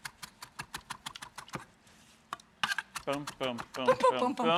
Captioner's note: knife chopping